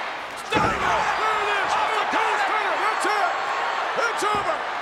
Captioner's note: crowd cheering drowns out commentator